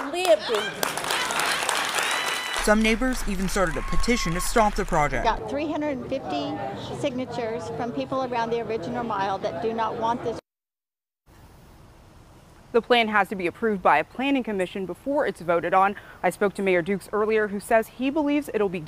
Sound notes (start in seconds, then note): 4.5 applause